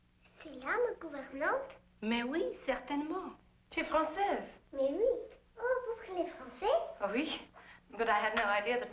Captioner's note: speaking in French